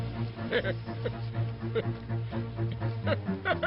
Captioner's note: chuckling